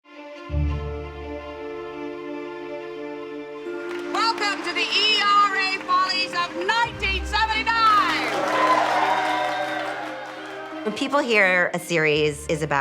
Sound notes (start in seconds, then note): 3.3 applause; 8.1 cheers and applause